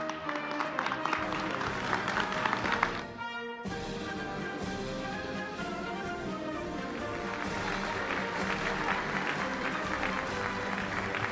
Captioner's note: applause